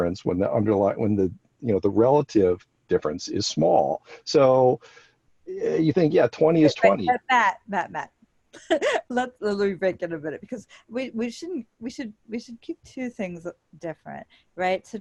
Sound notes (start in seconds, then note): 8.4 laughs